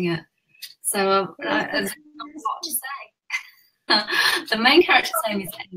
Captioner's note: laughs